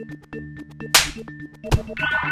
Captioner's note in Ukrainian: хлоп